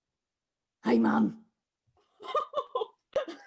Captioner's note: silly gruff voice; laughing